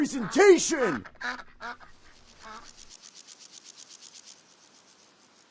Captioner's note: quacking